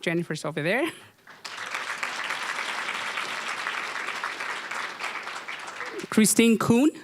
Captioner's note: applause